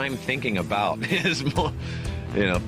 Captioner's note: laughs